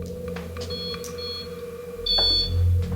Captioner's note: beeping